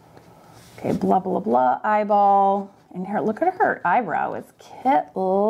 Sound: none

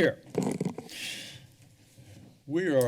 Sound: breaths deeply

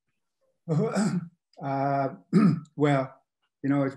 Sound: clears throat

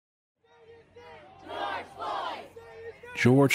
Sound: crowd chanting

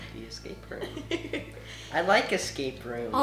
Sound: laughs

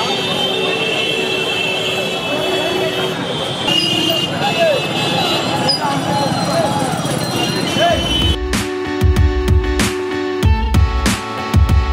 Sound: street noises and honking

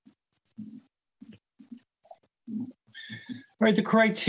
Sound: mouse clicking

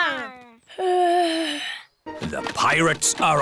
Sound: yawns

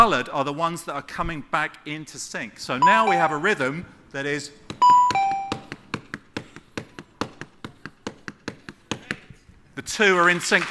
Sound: taps out a beat

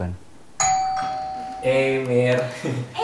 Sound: bell chimes

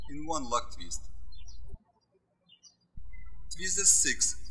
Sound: birds chirping

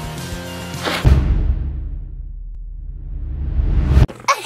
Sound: boom

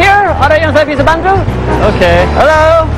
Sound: speaking indonesian

